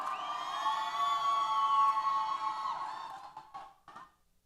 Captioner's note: applause & Cheers